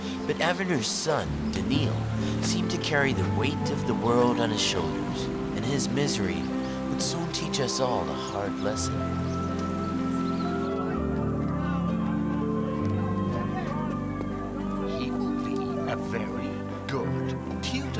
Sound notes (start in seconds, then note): 10.3 people chattering